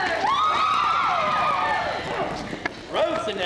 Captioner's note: women cheer